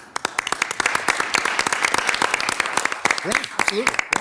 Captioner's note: audience applauds